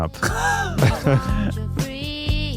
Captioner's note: laughing